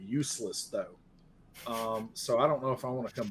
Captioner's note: laughing